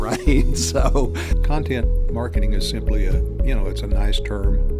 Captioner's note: voiceover